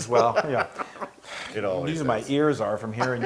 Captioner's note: laugh